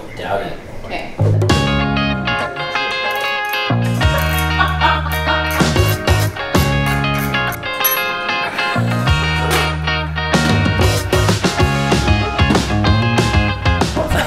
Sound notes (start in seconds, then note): 4.2 laughter; 7.8 tool sounds